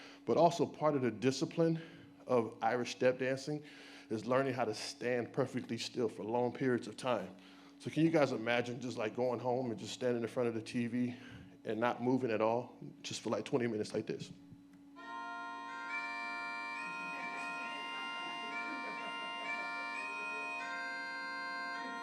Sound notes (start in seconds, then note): 15.0 irish music; 16.1 audience laughs lightly